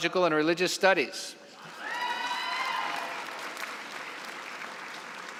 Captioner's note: cheering and applause